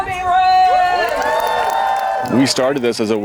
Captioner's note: spectators cheering